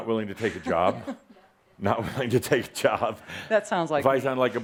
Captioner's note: she giggles a little